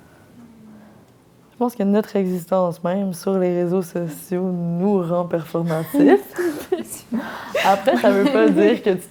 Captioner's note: laughs